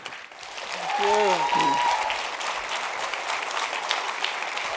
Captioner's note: audience applauding